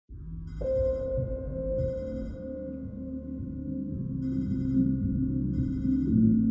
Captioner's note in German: Weckerklingeln